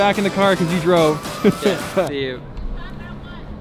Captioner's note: laughs